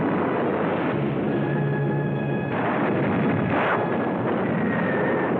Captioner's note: explosions